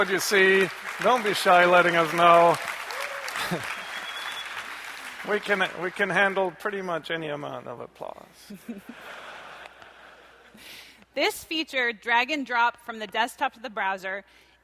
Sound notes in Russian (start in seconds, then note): 3.1 аплодисменты; 8.5 смех